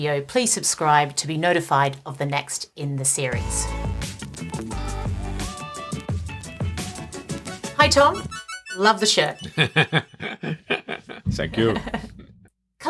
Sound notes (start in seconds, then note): 3.3 upbeat music; 8.6 chuckles